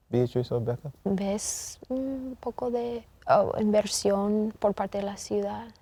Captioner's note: speaking in Spanish